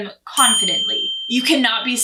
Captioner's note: bell dinging